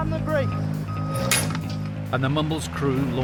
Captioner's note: alarm beeps; chains jingle